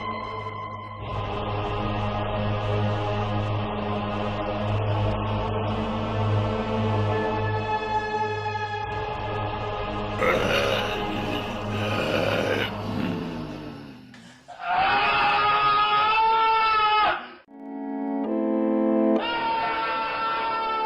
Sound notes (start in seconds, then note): 10.2 zombie noises; 14.6 Lucas screaming